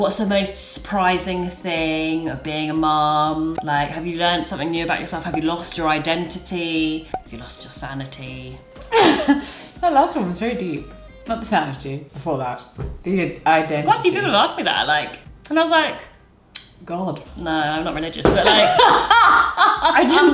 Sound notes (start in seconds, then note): 8.9 laughs; 18.4 laughs